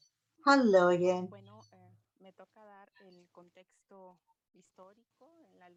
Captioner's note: speaking spanish